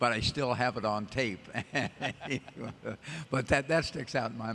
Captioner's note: laughter